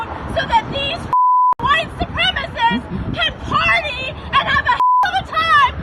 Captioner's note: beep